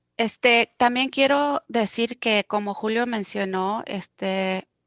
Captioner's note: speaking foreign language